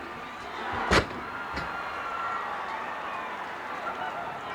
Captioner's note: body thuds